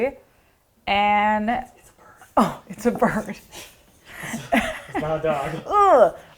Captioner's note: laughs